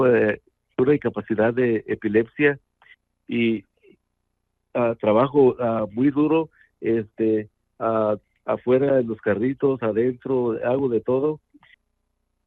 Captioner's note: speaking in Spanish